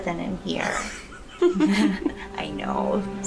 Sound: Mary laughing

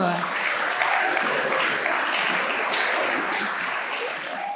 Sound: applauding

